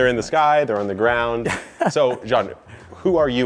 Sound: chuckles

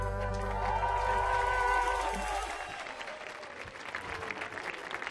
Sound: audience applauding

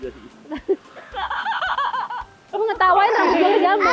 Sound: chuckled

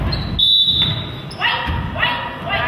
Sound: whistle blows

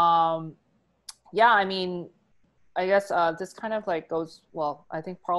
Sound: clicks tongue

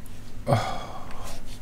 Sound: sigh

